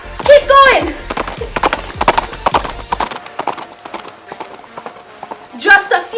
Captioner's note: galloping noise